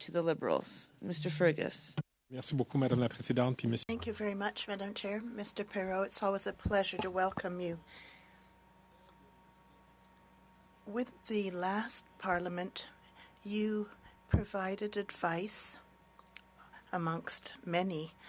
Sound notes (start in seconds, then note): 6.9 speaking French